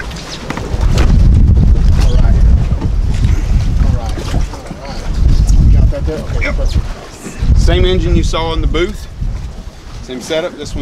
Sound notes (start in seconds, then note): 0.4 cowling thudding; 7.0 grunting